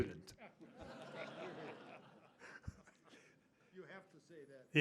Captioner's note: laughter